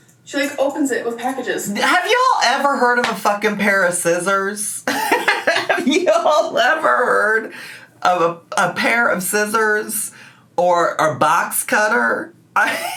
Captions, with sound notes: She like opens it with packages. - Have y'all ever heard of a fucking pair of scissors? (laughs) Have y'all ever heard of a pair of scissors or a box cutter?